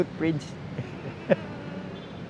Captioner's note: chuckles